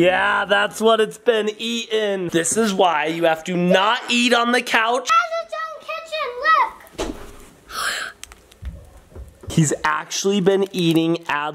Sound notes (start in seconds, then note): 7.6 gasping